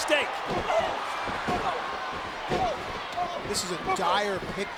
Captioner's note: fighters grunting